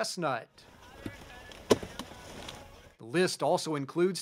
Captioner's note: sound of Chopping Tobacco